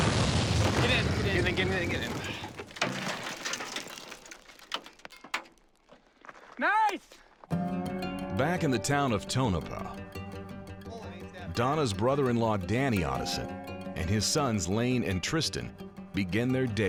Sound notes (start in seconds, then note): 0.0 explosion; 4.0 rocks bouncing around them